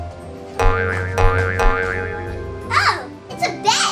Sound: assistant bouncing

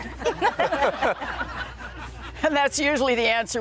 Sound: laughing

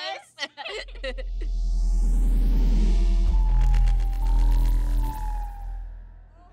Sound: mysterious warbling

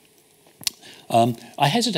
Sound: smacks lips

